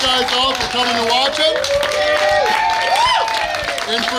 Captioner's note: cheering & Clapping